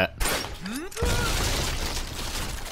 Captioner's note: falling objects